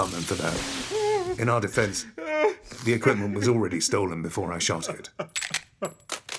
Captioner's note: Ridge crying; Ridge crying